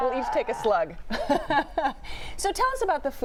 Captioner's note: chuckles